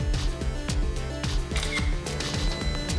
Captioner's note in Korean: 카메라 셔터 소리